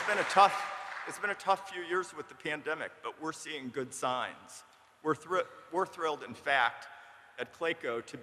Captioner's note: applause